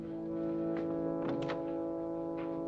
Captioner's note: door opens